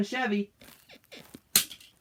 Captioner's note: bed squeaks